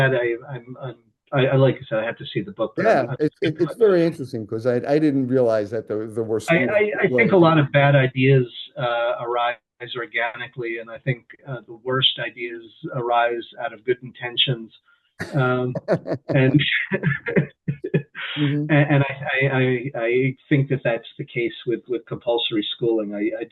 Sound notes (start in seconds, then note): 15.3 laughter